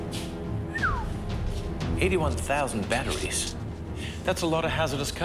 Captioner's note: whistles